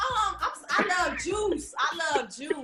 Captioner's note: laughing